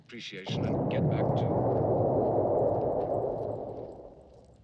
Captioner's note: exploding in the distance